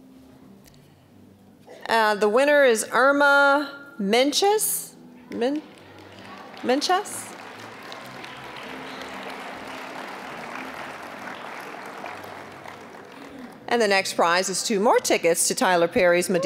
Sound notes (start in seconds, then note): 7.5 applause